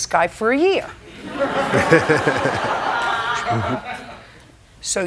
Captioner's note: laughter